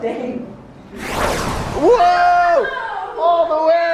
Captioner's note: swooshing